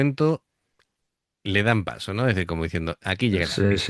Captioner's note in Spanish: risas